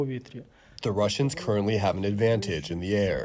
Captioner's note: through translator